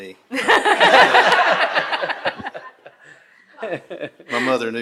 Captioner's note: attendees laughing